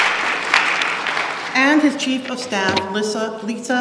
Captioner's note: applause